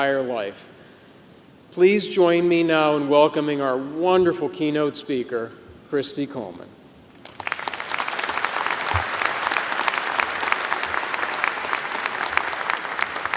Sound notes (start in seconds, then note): 7.2 applause